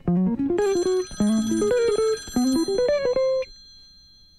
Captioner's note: phone rings